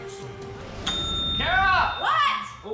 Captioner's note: dings